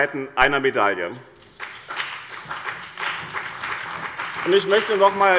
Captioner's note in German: Beifall bei dem BÜNDNIS 90/DIE GRÜNEN und der CDU